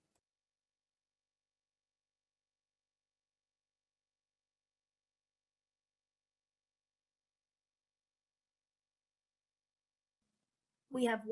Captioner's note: silence